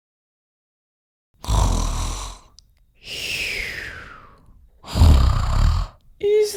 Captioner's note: snoring